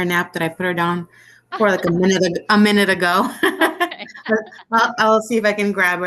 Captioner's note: laughs